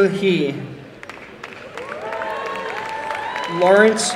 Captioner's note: applause and cheering